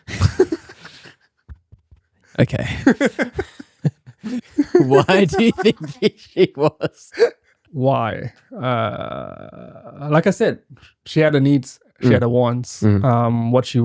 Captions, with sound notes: (laughing) Okay. (laughing) Why do you think she was? Why? Like I said, she had a needs, she had a wants. What she wanted was not